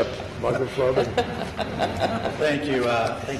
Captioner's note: laughter